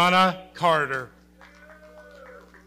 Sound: audience cheering

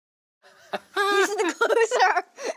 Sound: laughing

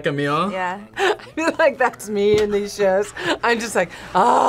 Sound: laughs

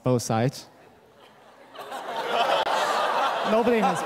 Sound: laughter

